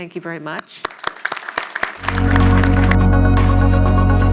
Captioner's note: crowd applauds